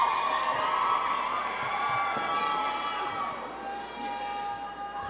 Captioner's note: crowd cheering and clapping